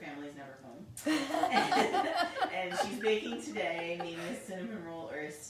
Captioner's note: both laughing